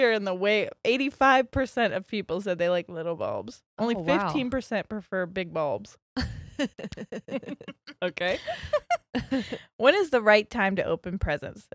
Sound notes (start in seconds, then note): 6.2 both laughing